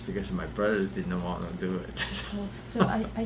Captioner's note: laughs